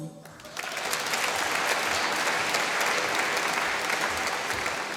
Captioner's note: applause